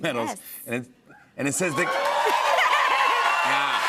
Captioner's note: cheers and applause